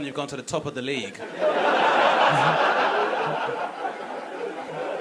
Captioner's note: laughing audience